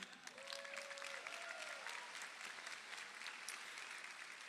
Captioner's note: crowd applauding